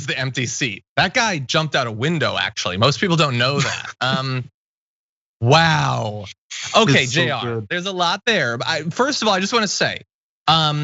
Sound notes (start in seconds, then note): 3.3 laugh